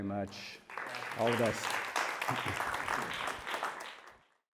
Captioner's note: audience applauding